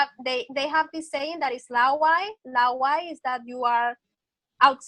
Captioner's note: speaking foreign language